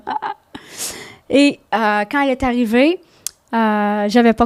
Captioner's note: in french